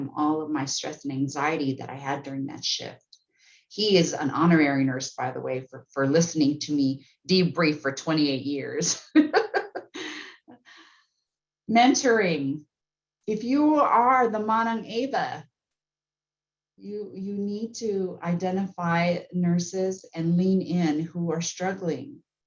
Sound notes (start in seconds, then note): 9.1 laughing